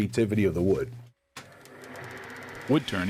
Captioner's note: machine buzzing